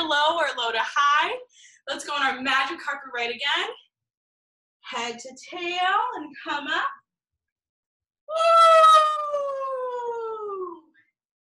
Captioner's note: whooo